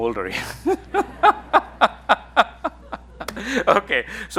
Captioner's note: everyone laughing